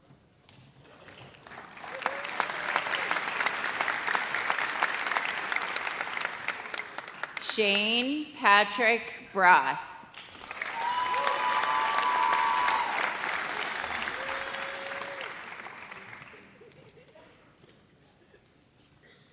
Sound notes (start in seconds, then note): 0.9 audience applauds; 10.4 audience cheers